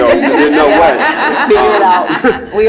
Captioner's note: laugh